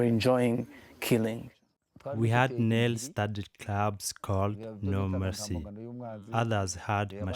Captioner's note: through translator